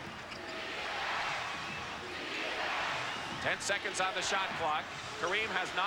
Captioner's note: crowd chanting "defense"